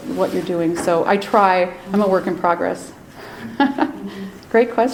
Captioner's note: laughs